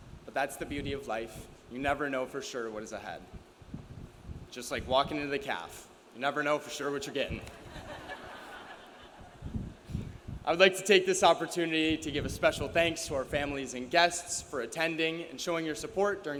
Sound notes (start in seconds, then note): 7.5 audience laughs